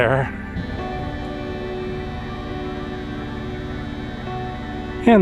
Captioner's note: electric buzzing